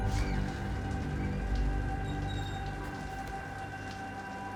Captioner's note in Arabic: ماء يتدفق